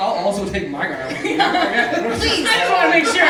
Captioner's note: laughing